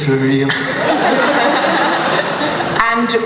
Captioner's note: laughter